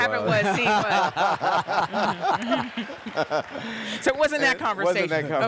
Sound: group laughs; audience applauding

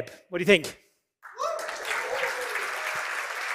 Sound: cheering and applause

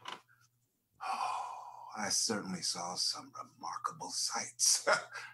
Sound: laughs

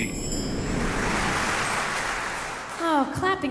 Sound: audience applauding

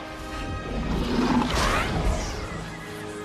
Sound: dragon roars; dramatic music

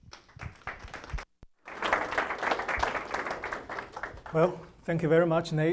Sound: audience applauding

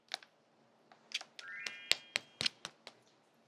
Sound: tapping

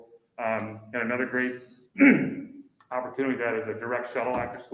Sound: clears throat

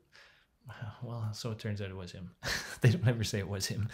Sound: chuckles

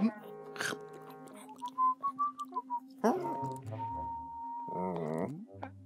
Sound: Simon casually whistling

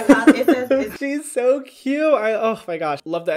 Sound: laughs

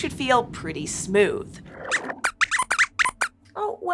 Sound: squeaks squeaks

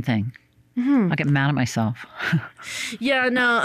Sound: chuckles

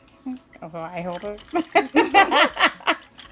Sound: laughter

